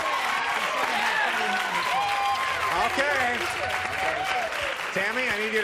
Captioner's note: cheers